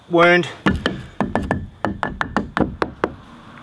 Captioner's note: hammering